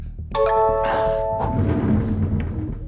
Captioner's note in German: Durchschnaufen